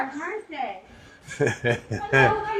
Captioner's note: laughs